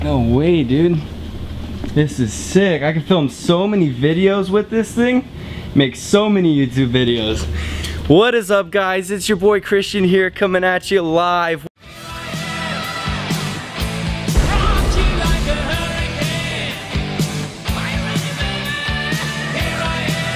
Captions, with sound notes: No way! This is sick, I could film so many videos with this thing! I could make so many youtube videos! What is up guys? It’s your boy Christian here, coming at you LIVE! [Explosion]